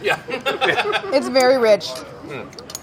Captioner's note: all laughing